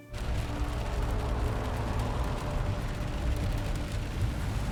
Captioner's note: rain pours